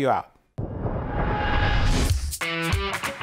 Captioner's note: whooshing; upbeat music